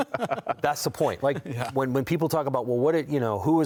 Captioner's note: laughter